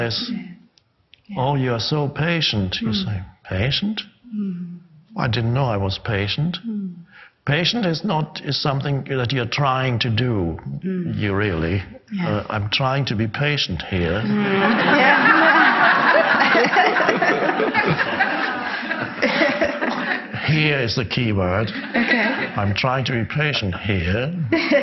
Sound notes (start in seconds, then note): 14.2 audience laughs; 17.0 man laughs